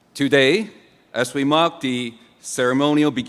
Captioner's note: none